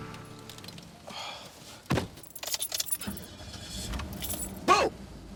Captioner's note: engine revs; sighs